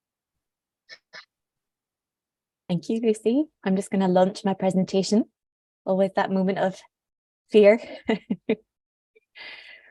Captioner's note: laughs